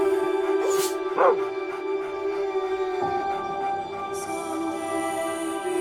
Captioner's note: Clementine woofs; barks